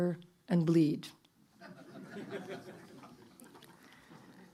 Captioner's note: laughter